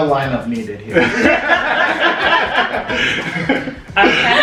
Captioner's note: laughter